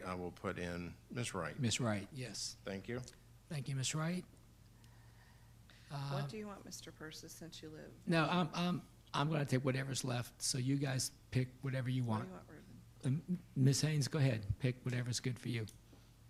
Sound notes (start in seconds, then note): none